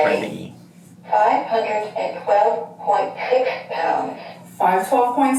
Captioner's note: electronic Voice